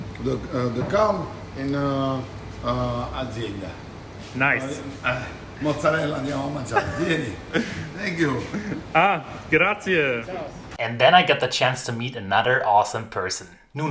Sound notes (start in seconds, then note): 5.4 speaking in foreign language